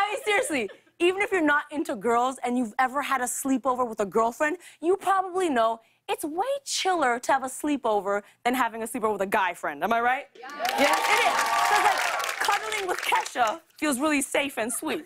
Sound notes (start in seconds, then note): 10.4 cheers and applause